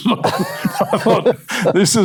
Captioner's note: laughing